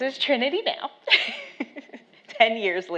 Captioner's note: laughs